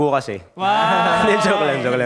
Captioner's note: cheering